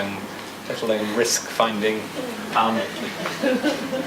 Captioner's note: audience laughs